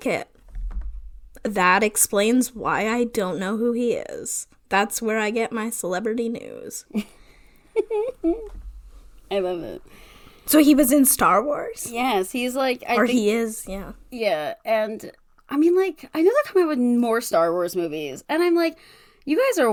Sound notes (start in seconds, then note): 7.7 laughs